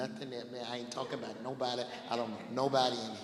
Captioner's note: laughing